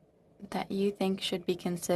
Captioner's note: speaking in french